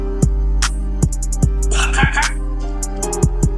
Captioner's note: coughing